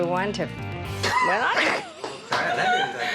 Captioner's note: laughter